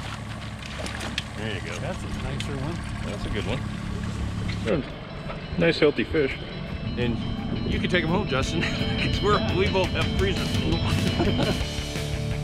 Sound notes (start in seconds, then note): 1.6 boat engine idling; 2.5 fish splashing; 10.5 laughing